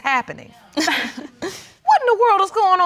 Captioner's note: scoffs